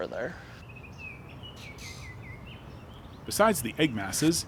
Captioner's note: birds chirping